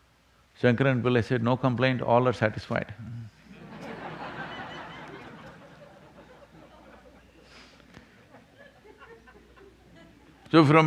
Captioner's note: laughter